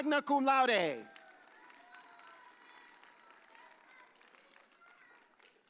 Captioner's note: audience cheers